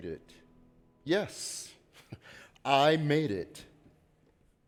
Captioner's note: laughs